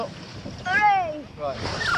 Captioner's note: boat squeaks